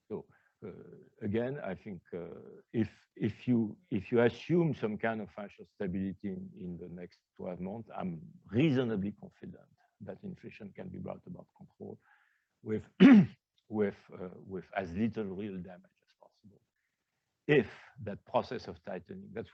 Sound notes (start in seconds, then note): 12.9 coughs